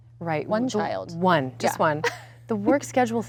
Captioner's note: laughs